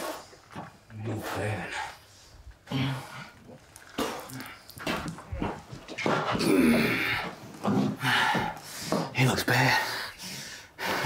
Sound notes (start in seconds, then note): 2.6 spits